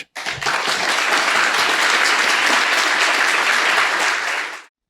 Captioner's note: people applauding